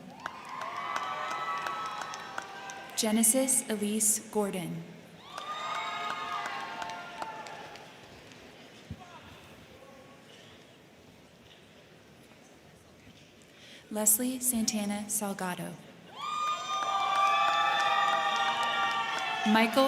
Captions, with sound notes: (crowd cheering) (crowd clapping) Genesis Elise Gordon. (crowd cheering) (crowd clapping) Leslie Santana Salgado. (crowd cheering) (crowd clapping)